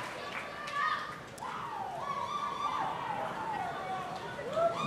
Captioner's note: audience cheering